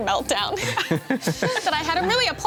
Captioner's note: everyone chuckles